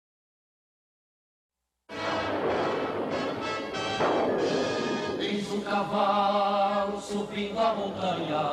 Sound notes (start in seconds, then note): 1.9 thunderclap